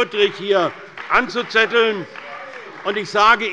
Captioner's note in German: Beifall bei der CDU